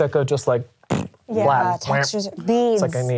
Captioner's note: blows raspberry